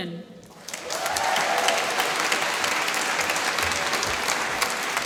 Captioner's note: applause